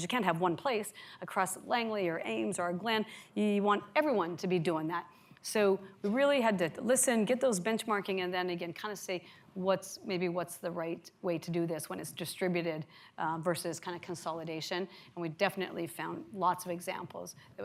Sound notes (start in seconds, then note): none